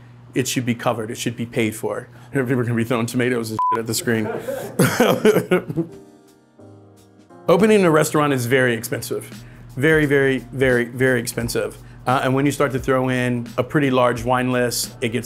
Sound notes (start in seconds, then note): 3.9 laughs; 6.2 relaxing music